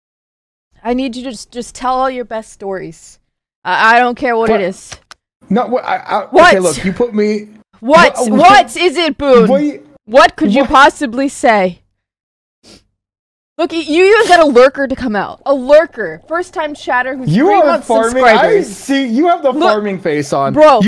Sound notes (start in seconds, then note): 11.6 flabbergasted sounds